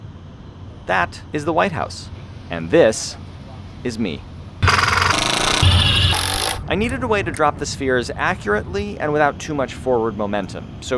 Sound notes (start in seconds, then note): 4.6 drill whirring